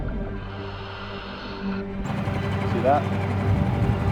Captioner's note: oxygen mask hums